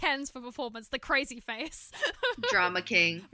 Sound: laughter

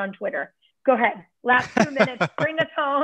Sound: laughter

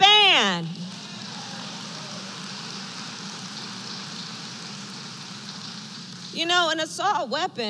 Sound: applause

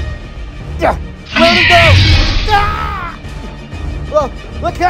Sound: men shouting

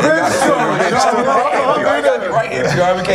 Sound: all laugh

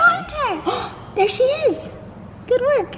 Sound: gasps

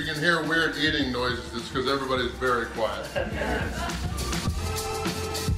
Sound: haha

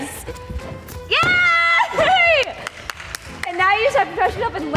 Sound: claps

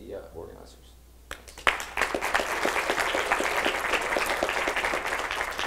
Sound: clapping

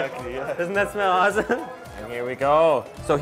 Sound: chuckling

